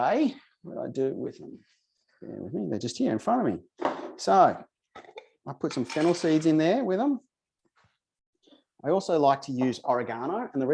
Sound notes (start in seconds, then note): 3.8 bottle thuds